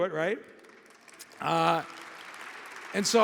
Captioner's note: audience applauding